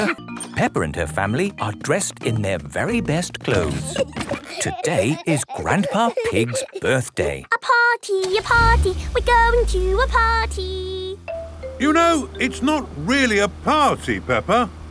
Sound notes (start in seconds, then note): 3.4 giggling; 7.3 sing song voice